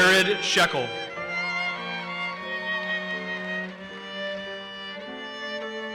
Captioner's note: audience cheers and applauses